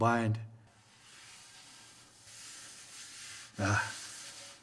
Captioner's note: soft clay scraping